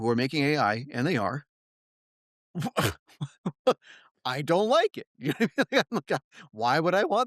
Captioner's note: laugh